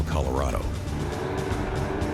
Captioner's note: truck engines revving; suspenseful music playing